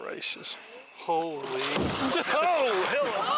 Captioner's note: water splashing